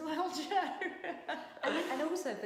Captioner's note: laughing